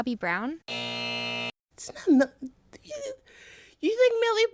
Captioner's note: soundbite of buzzer